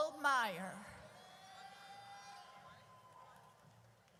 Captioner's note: audience cheers